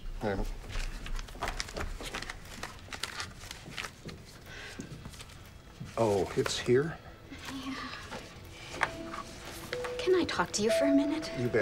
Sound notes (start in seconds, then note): 0.5 paper rustling; 8.9 somber music